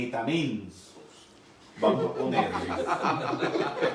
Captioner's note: laughing